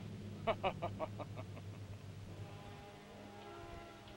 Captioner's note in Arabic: كروب يضحك